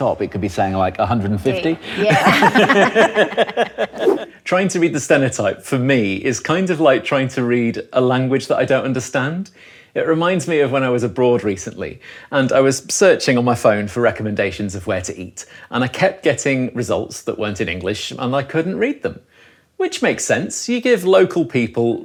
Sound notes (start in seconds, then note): 1.7 group laughing